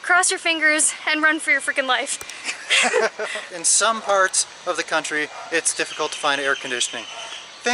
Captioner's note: laughter